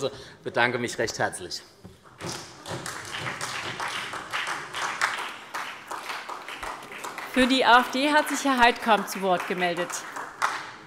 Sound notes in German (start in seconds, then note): 2.6 Beifall SPD